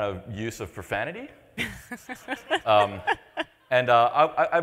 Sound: laughs

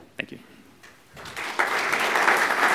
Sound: applause

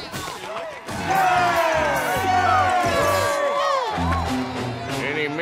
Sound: cheering

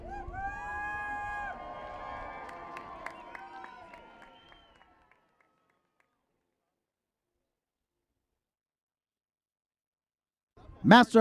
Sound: cheers

